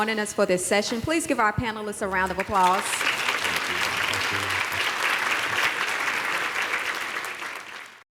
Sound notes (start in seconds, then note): 4.2 applause